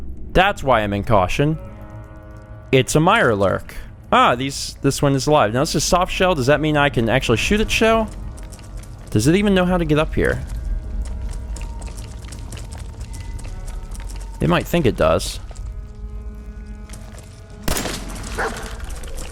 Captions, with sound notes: That's why I'm in Caution! It's a Mirelurk! Ah! These...this one is alive! Now, this is a 'Softshell', does that mean I can actually shoot it's shell? Does it even know how to get up here? It might think it does. *BLAM!* *woof!*